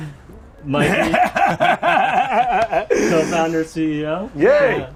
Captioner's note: Seth laughs